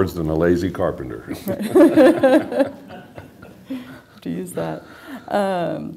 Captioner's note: laughter